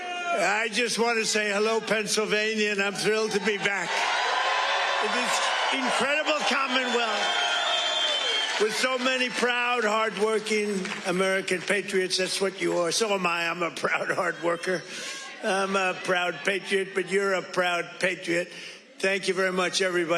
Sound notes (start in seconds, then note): 9.9 cheers and applause